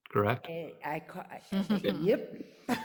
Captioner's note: laugh